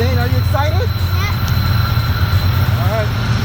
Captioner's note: train engine roars